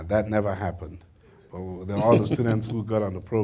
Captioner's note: laughter